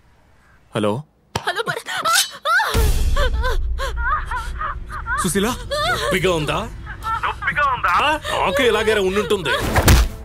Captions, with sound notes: Hello. - Hello, Bharath. [Screams] Suseela! Does it hurt? Does it hurt? It was painful for me too.